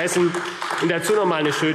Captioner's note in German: Beifall AfD